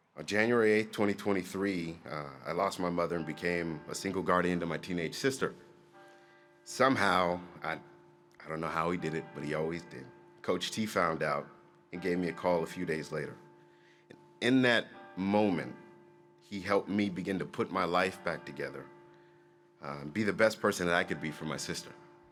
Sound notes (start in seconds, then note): none